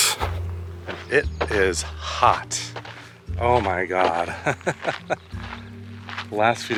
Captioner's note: laughs